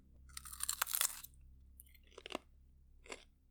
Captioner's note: crunch; munches on apple